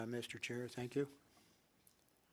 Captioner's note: speaking French